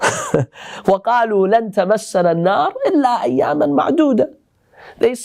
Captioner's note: Arabic